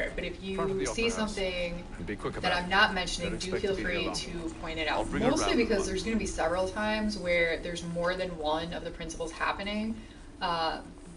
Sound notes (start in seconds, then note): none